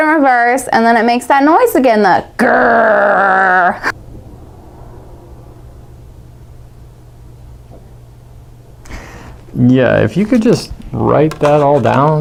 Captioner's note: grrrrrr